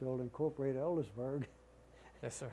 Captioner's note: laughter